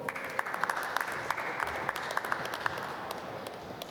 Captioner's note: applause